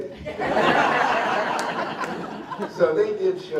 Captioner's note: laughter